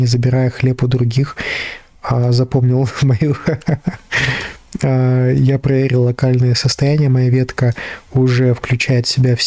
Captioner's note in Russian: смех